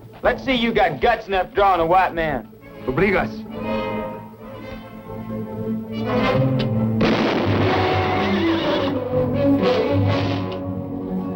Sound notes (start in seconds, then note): 2.8 speaking spanish; 7.0 gunshot